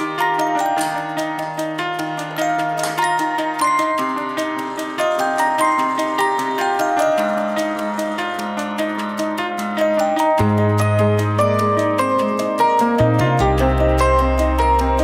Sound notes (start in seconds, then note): 0.2 clink - clink; 4.6 drilling